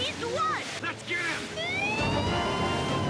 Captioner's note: alarm sounds